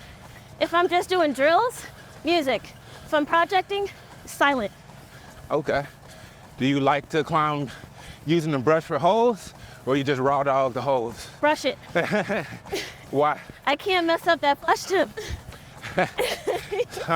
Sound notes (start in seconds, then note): 11.8 laughs